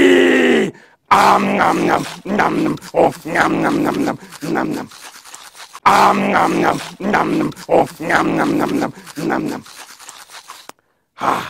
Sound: eating sounds

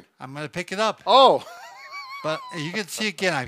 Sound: laughs

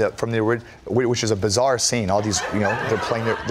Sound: laughter

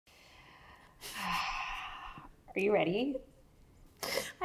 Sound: sighs

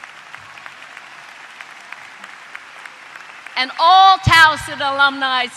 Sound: applause

